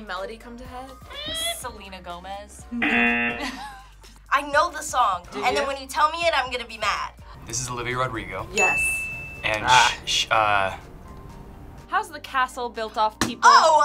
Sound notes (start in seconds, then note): 2.8 buzzer sounds; 8.5 bell dings